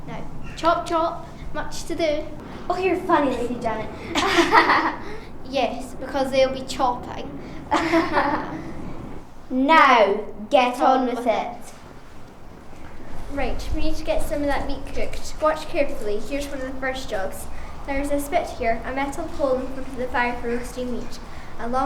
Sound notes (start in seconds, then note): 4.8 laughing; 8.1 both laughing